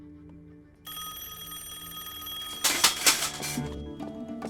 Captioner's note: telephone rings